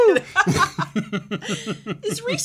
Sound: both laugh

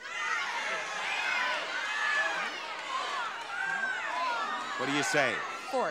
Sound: audience shouting

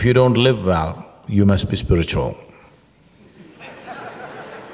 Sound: laughter

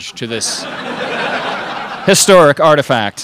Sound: crowd laughs

